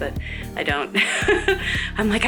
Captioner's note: laughs